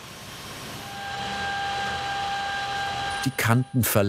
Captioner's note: machine noises